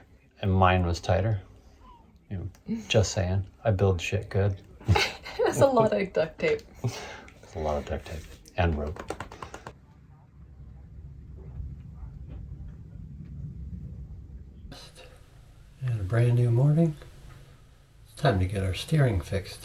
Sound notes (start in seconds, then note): 4.8 laughs